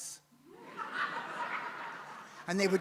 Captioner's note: audience laughs